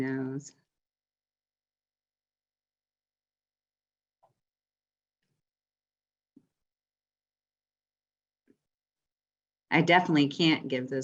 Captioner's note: silence